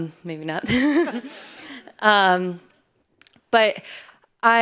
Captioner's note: audience laughing